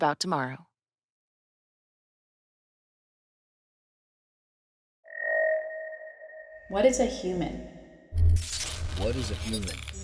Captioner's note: automated voice